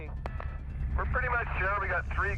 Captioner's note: voiceover